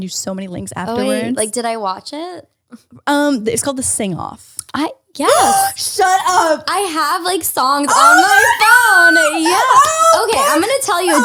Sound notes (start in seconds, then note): 7.8 screams